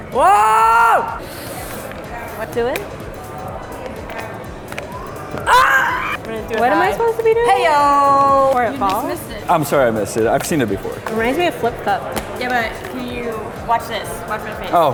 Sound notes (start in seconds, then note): 5.4 screaming; 8.0 exclaims